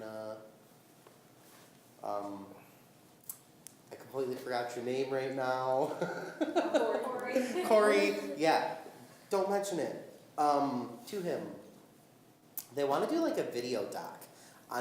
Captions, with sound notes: Lina, I completely forgot your name right now. (laughing) >> Corey. >> Corey, yeah, don't mention it to him. They want to do like a video doc